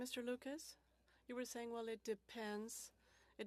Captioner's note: speaking French